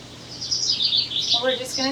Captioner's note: bird chirps